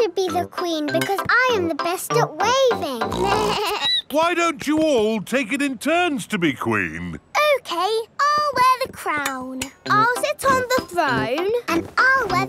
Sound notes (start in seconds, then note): 3.1 snorts; 3.1 bleats